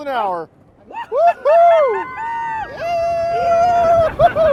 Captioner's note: screaming